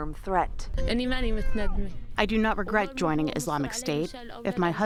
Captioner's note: through translator